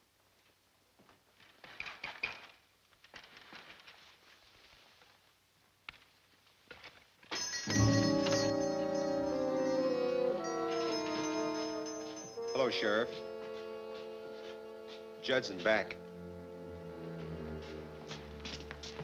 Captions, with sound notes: (bell ringing) (dramatic music) Hello, Sheriff. Judd's in back. (dramatic music)